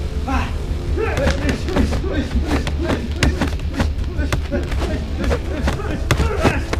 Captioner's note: dramatic music; men grunting; fists thudding